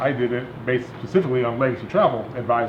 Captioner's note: none